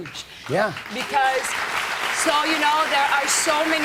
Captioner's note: applause